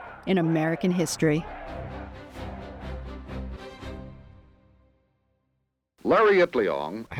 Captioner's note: people chanting "Huelga"